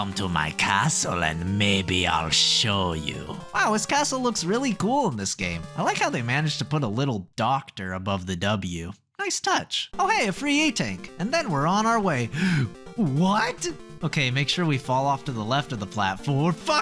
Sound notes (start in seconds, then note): 12.3 gasp